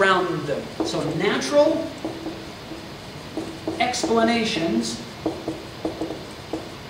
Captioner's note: marker clacks